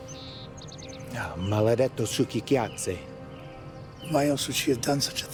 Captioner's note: Lou speaking in Italian